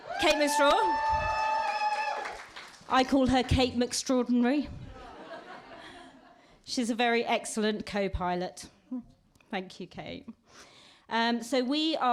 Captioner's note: applause